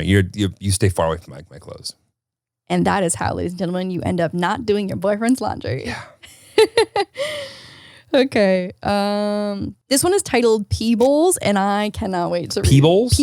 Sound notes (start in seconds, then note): 5.8 laughs